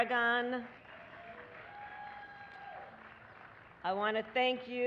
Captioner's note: applause